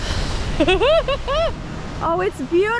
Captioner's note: laughs